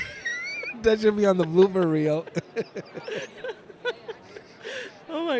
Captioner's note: laughter